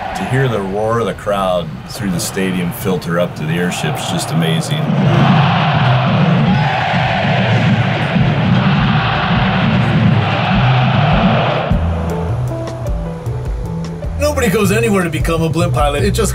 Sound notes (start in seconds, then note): 5.1 crowd cheering; 12.0 upbeat music